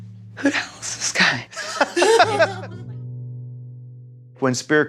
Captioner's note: laughing